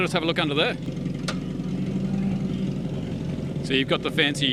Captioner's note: car engine revving